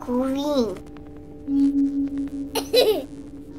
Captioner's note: laughs